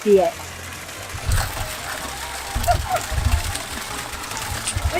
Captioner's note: water splashing